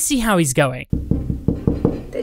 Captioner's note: knocking